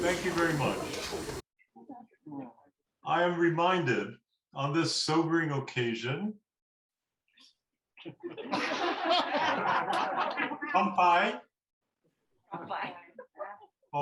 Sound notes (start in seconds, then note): 8.0 laughter